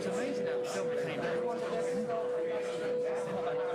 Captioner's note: bowl ringing